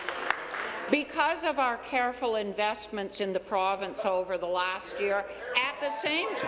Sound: applause

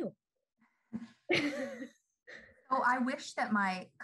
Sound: laughing

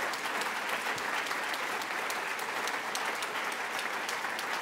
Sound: applause

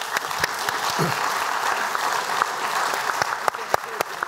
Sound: applause

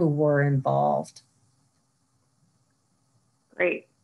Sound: silence

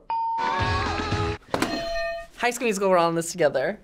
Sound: bell rings; bells ring

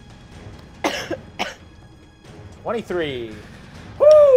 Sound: coughing

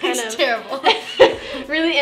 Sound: laughs

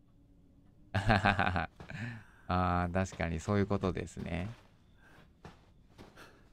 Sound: laughing

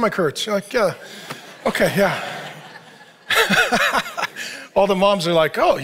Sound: laughs

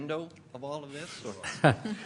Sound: laughter

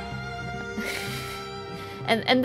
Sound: little laughs

